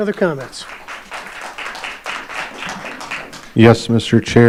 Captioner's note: audience applauding